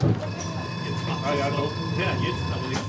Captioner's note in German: Rumpeln, Glocke